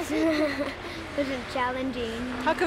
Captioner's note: laughter